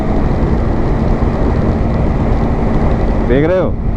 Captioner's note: wind noise